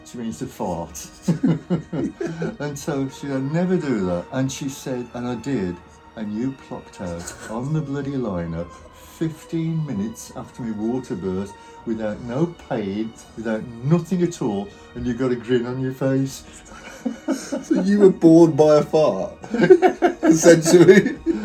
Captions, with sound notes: She means to fart. (both laughing) And so she says, "I never do that." And she said, "And I did, and you plopped out, on the bloody lino, 15 minutes after my water burst without no pain, without nothing at all, and you'd got a grin on your face." (laughs) - So you were born by a fart? - Yeah. (both laughing) - Essentially.